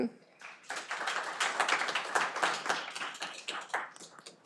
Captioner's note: audience applauding